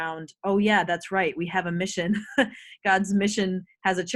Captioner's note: laughs